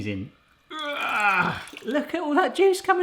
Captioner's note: groans